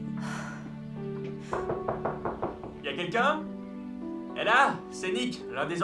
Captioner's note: knocking